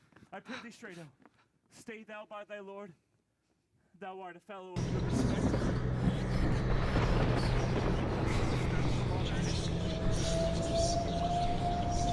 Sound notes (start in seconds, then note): 4.8 thunder rumbling; 9.8 ominous flute melody